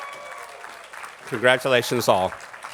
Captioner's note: attendees applauding